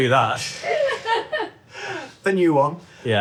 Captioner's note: chuckles; everyone chuckling